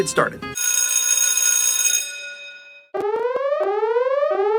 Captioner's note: school bell rings; warning siren sounds